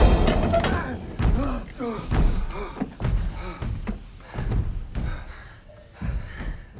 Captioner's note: Strigoi thumping; men gasping